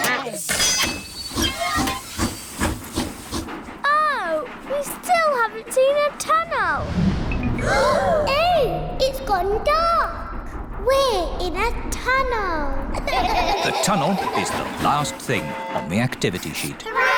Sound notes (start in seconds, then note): 0.3 train chugs; 7.6 all gasp; 13.0 all laugh